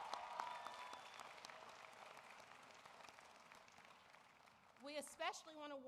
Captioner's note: applause